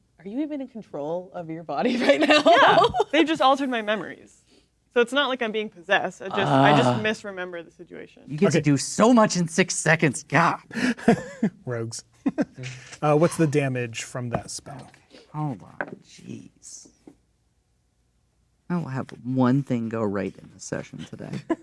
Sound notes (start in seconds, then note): 6.4 groaning; 12.2 chuckles; 21.4 players laughing